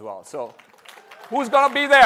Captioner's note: applause